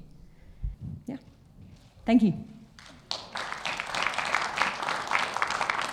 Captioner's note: audience clapping